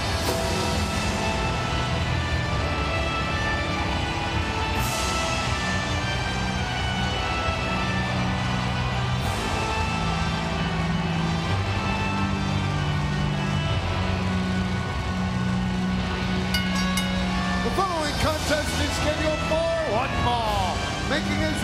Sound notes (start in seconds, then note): 16.5 bell rings